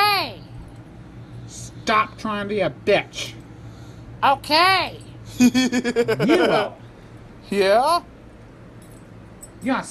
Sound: laughs

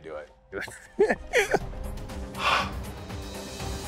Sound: laughs; intense music

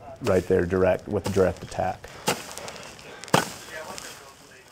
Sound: chopping sound

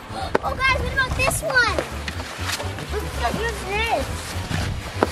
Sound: girls chattering; gasps

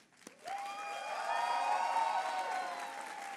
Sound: applause

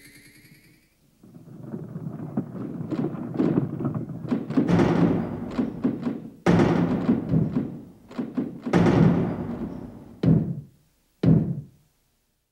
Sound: rumbling; thumping

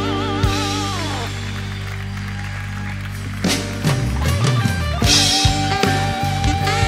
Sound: applause; מחיאות כפיים

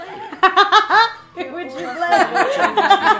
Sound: laughing

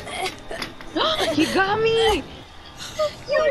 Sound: gasp

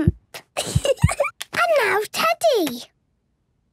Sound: giggles

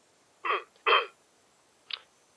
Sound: clears throat

